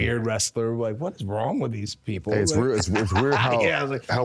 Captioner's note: laughing